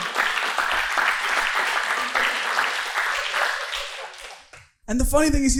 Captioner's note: audience laughing